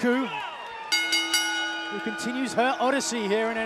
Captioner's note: bell ringing